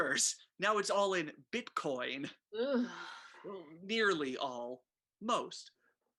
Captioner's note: Nicki groans